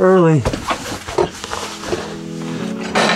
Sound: shuffles

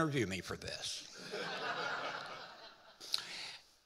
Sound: audience laughing

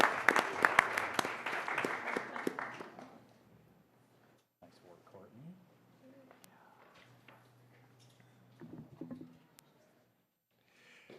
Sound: applause

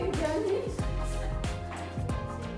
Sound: laughing

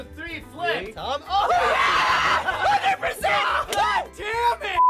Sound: all cheering

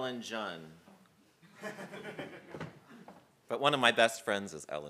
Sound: laugh

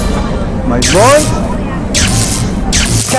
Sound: zapping sounds

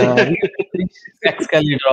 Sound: laughs

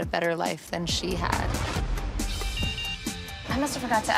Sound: beeps

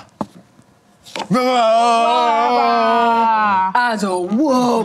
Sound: excited grunting

